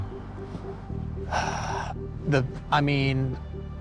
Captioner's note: sighs